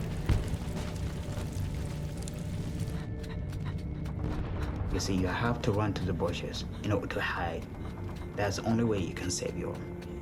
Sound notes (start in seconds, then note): 3.2 panting